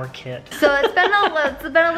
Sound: laughing

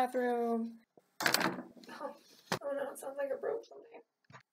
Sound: thud-crack

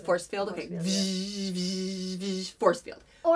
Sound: force field buzzing noises

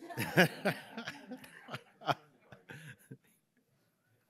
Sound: all laughing

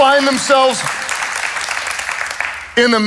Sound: congregation claps

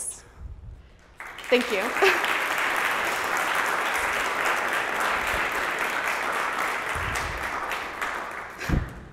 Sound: applause

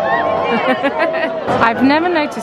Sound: laughs

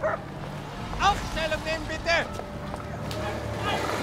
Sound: dog barks

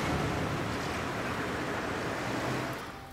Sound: traffic humming; fireplace crackling

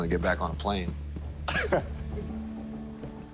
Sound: laughs

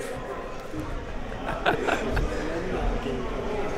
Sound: laughing

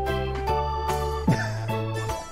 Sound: laughs

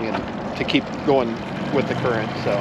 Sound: motor revving

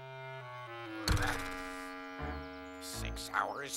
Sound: grunting

